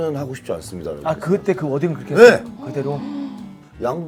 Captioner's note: haha